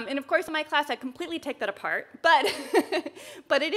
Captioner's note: chuckles